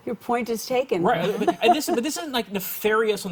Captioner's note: laughs